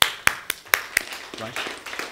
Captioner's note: applause